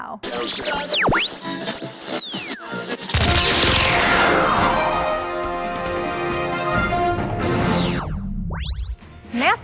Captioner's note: sound Effects